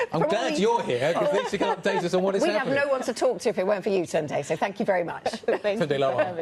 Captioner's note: laughter